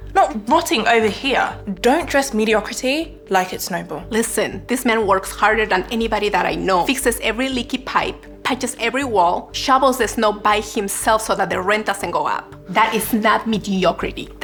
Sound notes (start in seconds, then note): none